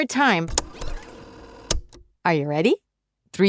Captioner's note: tape rewinding